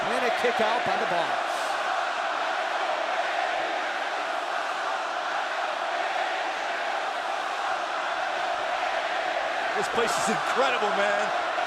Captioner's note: crowd cheering